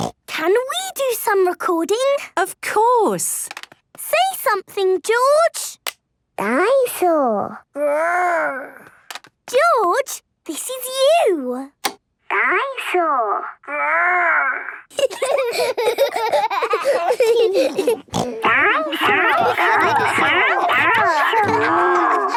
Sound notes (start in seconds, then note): 0.0 snorting; 14.9 giggling; 17.5 snorting